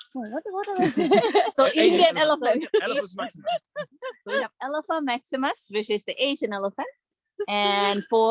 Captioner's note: laughter